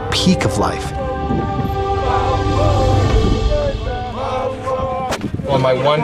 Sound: chanting

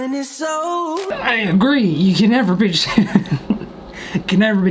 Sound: chuckles

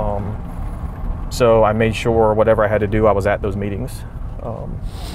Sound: wheels sloshing

